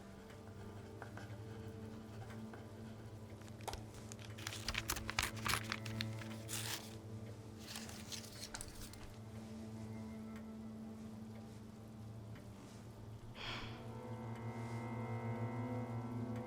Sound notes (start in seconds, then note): 0.1 pen scratching; 3.6 paper ripping; 13.3 Rachel sighs